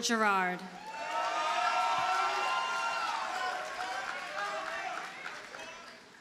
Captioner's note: audience cheers and applauds